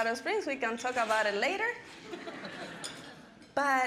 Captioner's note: audience laughing